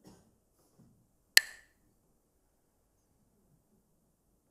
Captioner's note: clacks the sticks